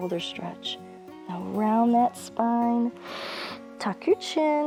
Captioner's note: inhales